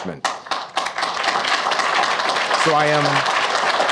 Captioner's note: audience applauds